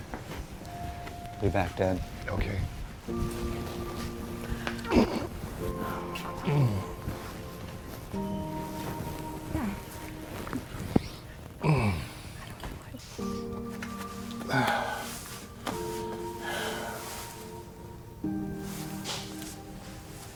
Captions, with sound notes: - Be back, Dad. - Okay. (Jim grunts) (gentle music) (Jim sighs) (gentle music)